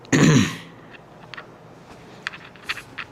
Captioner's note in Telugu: గొంతు సవరించుకోవడం